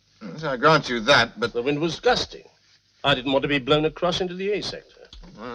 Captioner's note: none